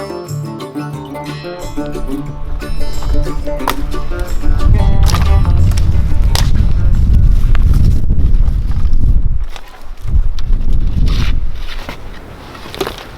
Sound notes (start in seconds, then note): 3.9 branches slamming; 12.6 dirt rustling; 12.6 shovel thudding